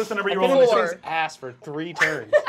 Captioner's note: swishes